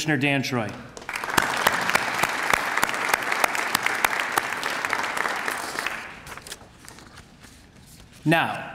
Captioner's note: applause